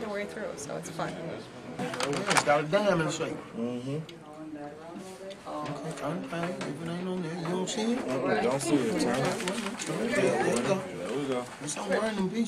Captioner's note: chatter